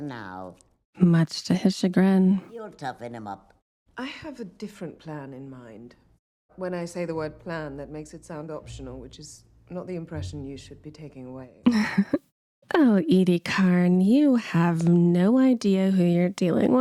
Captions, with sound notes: Much to his chagrin. (Laughter) Oh Edie Karn you have no idea who you're dealing